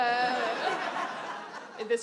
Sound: audience laughs

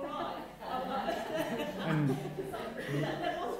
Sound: laughter

